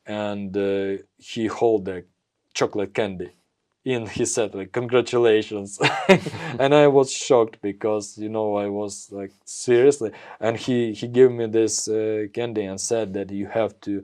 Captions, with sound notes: And, uh, he hold a chocolate candy. And he said like, "Congratulations." [laughs] [laughs] And I was shocked because, you know, I was like, seriously? And he, he gave me this, uh, candy and said that, "You have to